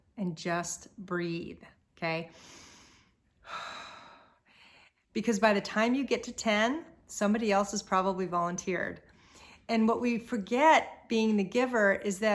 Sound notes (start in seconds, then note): 2.3 breathes deeply